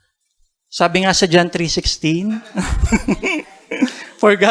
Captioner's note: chuckles